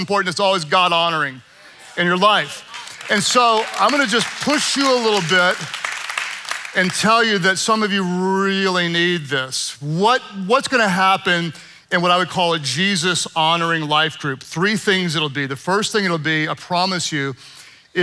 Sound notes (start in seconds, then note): 5.5 congregation clapping